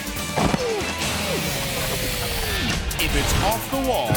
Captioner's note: groans